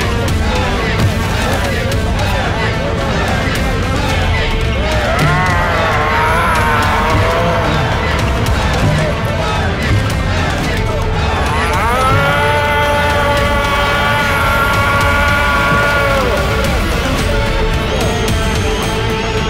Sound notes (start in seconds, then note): 4.4 crowd Cheering